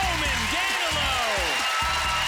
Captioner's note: cheering